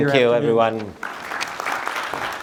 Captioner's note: applause